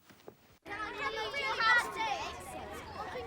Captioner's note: chattering